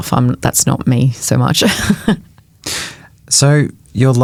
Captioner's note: chuckles